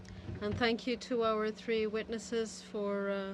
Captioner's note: speaking French